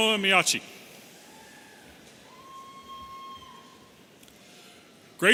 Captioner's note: audience cheering